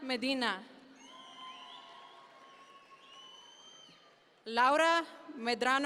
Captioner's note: audience members cheer